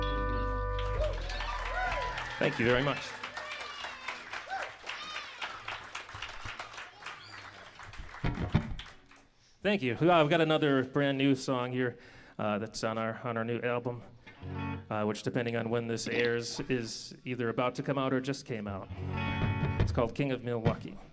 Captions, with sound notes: [applause] Thank you very much. [applause] Thank you. We've got another brand-new song here that's on our new album, which depending on when this airs is either about to come out or just came out. It's called "King of Milwaukee."